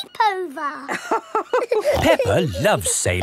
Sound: both laughing

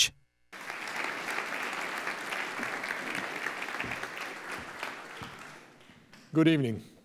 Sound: applause

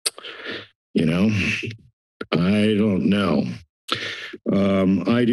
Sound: tongue clicking; breathes

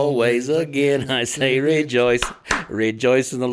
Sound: hands clap

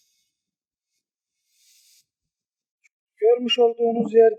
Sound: zzzzzzzzzzzzzzzzzııııııııııııııııı zzzzzz

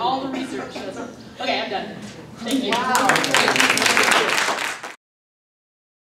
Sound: applause

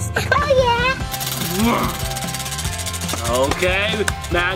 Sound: wheel spinning

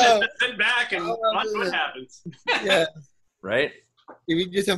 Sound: laughing

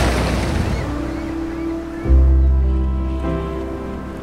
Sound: birds cawing

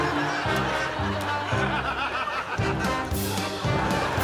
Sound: laughing continues

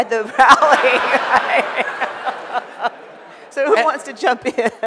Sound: audience laughing

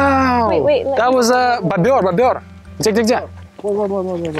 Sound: speaking Russian

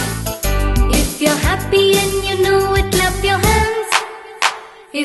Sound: clap clap

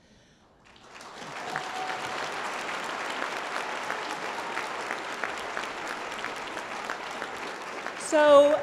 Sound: applause

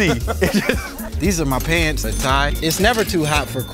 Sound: laugh

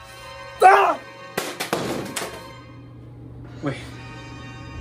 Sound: game clanking

